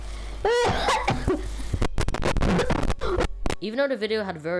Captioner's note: aggressive Coughing